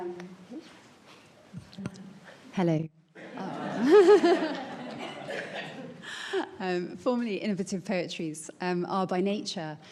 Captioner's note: laughs